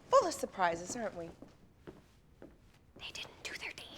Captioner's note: whispers